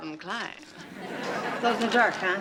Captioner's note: audience laughs